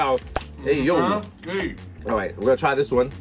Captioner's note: pops; Mero mumbles with mouth full